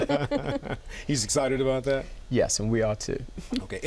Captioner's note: laughter